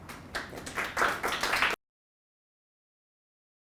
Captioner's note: audience applauds